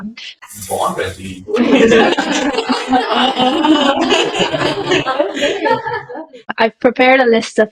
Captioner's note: laughter